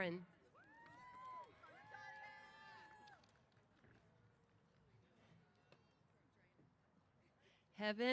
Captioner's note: applause & Cheers